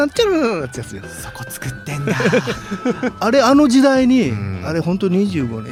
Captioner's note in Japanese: 笑い